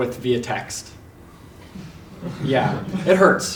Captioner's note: laugh